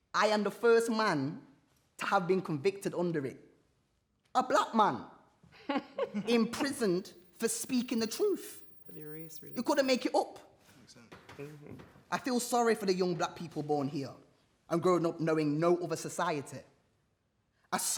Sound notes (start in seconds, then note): 10.7 others mutter incredulously